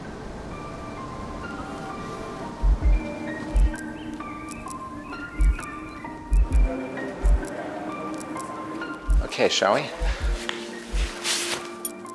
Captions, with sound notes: (gentle music) (birds chirping) Okay, shall we?